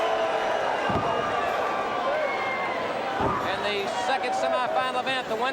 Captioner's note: crowd cheering